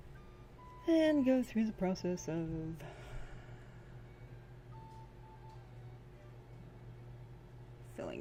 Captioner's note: sigh